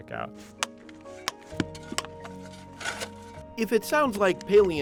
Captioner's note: mallet hammering